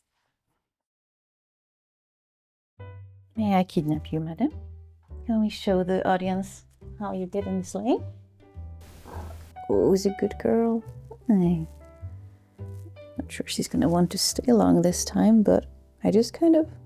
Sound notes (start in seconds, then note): 8.9 cat chirrps